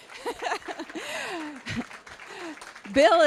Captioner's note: applause; laughing